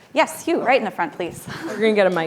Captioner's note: chuckles